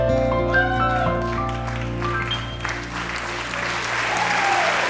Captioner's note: audience cheering